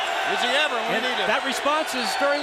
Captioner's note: crowd cheering